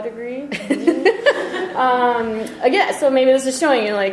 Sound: laughter

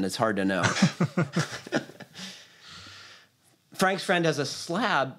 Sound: laughter

